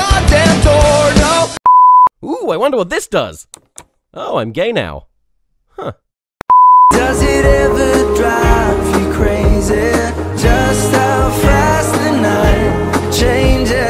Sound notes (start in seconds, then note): 1.6 beep; 3.5 click; 6.4 beep